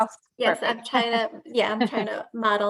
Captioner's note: laughing